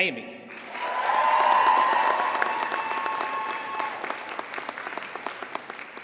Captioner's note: audience cheers and applauds